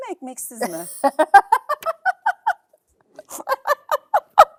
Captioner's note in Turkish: kahkaha